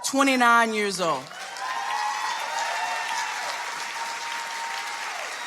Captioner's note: audience applauding